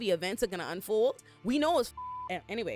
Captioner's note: beep